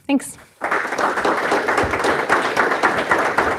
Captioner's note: applause